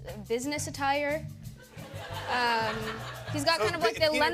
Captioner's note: laughter